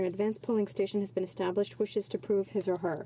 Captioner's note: speaking French